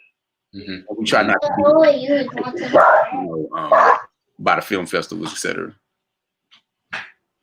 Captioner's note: murmurs